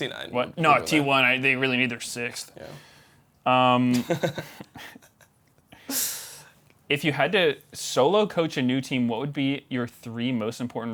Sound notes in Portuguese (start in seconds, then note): 3.9 risos